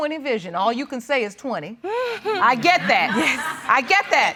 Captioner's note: laughter